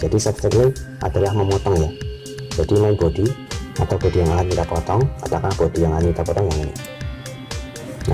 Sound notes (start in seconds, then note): 6.8 click